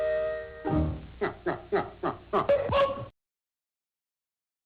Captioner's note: instrumental music; sinister laugh